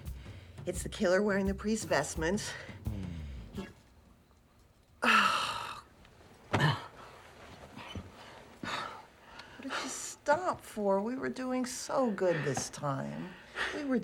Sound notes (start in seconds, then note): 5.0 sighs in exasperation